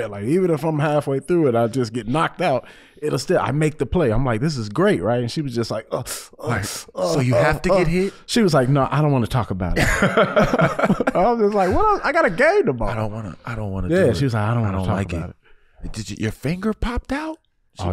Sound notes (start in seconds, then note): 5.8 wincing; 9.8 chuckling